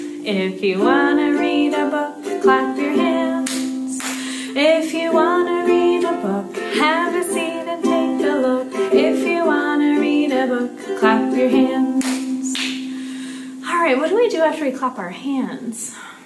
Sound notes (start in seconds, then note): 3.9 claps; 12.0 claps